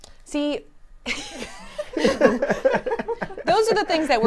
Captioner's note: laughing